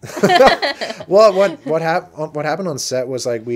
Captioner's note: laughing